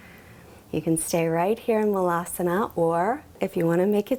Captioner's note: speaks in foreign language